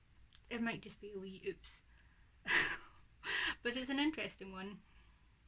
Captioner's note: laughs